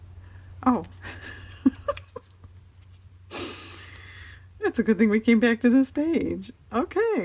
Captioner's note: laughs